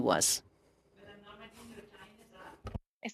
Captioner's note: speaking french